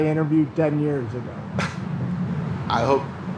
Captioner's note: chuckles